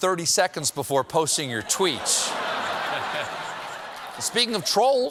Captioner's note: laughter